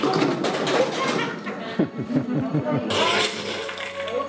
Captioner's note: laughs